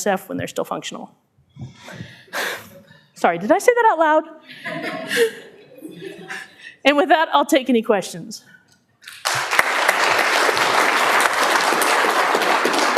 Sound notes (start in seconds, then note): 9.0 clapping